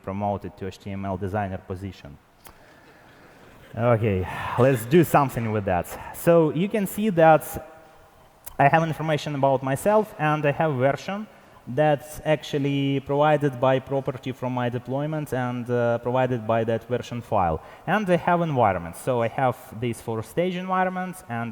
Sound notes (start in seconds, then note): 3.0 laughter; 4.1 sighs